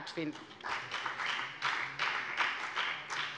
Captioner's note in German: Beifall bei der FDP